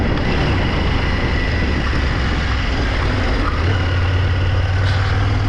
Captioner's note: thunder rumbling